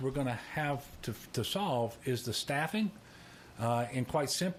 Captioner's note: none